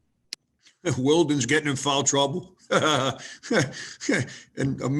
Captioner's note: laughs